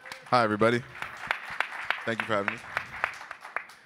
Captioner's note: attendees applaud